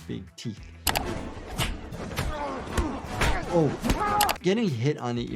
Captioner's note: grappling continues